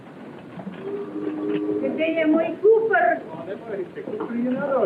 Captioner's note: speaking portuguese